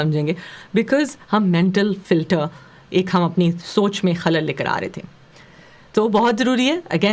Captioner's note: distortion